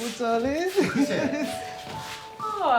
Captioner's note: Evelyn chuckling